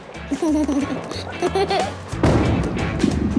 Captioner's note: giggles